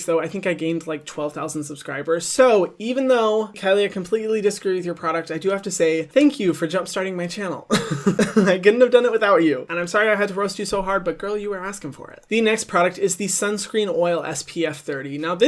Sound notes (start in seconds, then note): 7.7 laughs